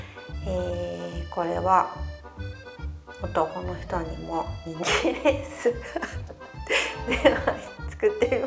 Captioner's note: laugh